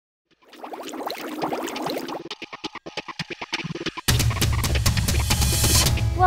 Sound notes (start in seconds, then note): 0.3 water bubbling; 1.4 techno beat; 2.8 drum beat